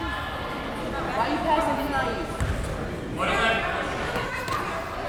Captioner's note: crowd members shouting